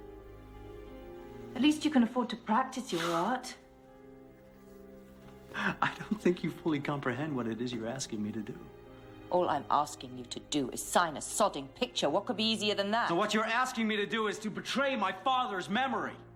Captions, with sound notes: At least you can afford to practice your art. (Matthew scoffs) - I don't think you fully comprehend what it is you're asking me to do. - All I'm I asking you to do, is sign a sodding picture. What could be easier than that? - No, what you're asking me to do, is to betray my father's memory.